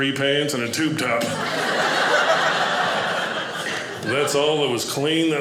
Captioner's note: audience laughing